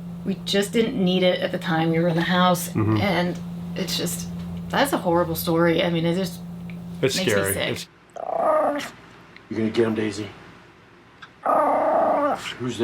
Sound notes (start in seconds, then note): 8.1 Daisy growls; 11.4 Daisy growls